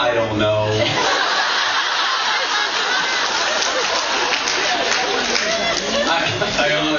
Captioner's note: laughs